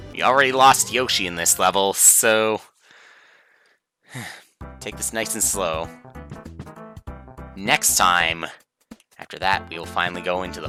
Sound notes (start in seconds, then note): 4.0 sigh